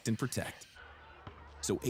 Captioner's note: crowd cheering